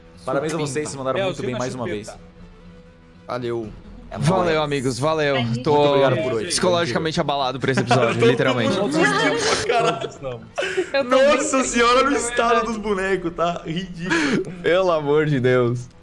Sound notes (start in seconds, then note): 10.2 laughs